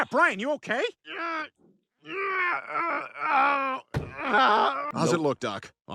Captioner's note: Brian groans in pain